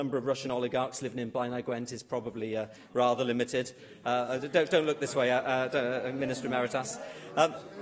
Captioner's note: laughter